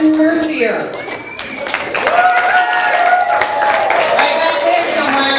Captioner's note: audience applause